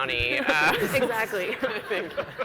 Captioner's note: laughs